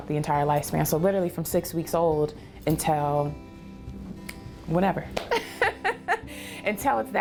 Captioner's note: laughs